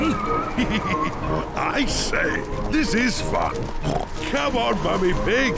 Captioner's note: chuckles